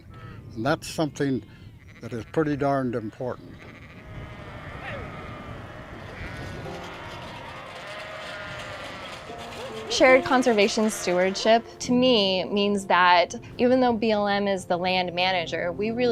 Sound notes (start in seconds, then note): 4.4 sheep bleating; 6.8 gentle instrumental music